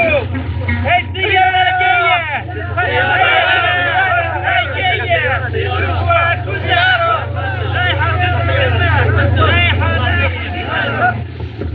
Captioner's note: groaning